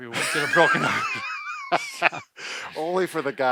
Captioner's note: they laugh